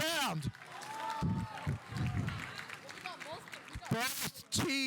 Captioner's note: audience applauding